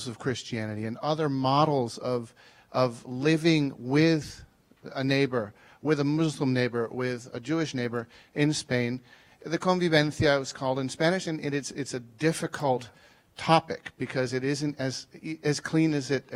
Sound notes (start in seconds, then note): 9.8 speaking foreign language